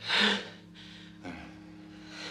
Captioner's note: sighs